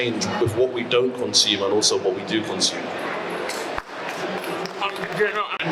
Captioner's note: applause